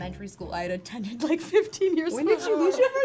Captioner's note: laughs